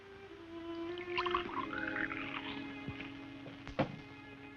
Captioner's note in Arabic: تتناثر المياه